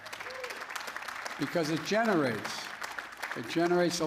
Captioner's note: applause